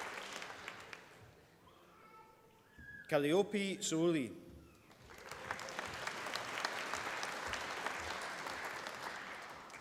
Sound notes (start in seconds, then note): 4.8 applause